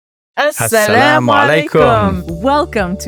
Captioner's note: both speaking foreign language